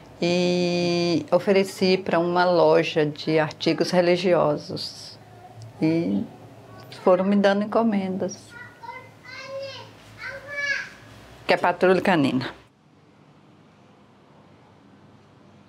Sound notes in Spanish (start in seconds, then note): 8.4 Voz de niño al fondo